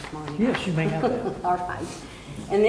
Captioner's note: laughing